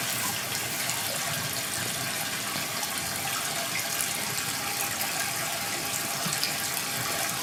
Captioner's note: water trickling continues